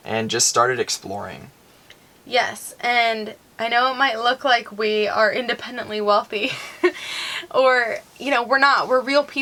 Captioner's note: laughing